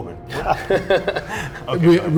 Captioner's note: laughing